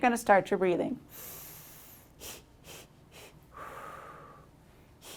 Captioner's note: loud breathing